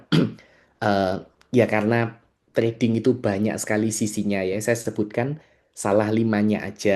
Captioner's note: berdehem